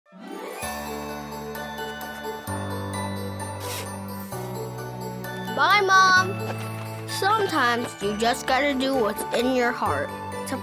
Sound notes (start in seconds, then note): 0.4 xmas music; 3.6 zipper zips